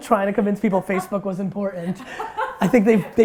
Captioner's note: laughs